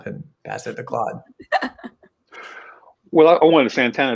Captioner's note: laughing